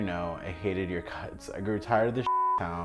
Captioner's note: beeping